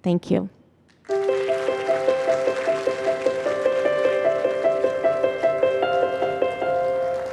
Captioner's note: audience applauding and soft piano music